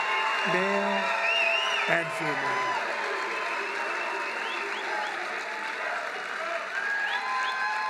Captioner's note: applause